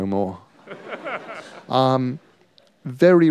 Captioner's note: laughter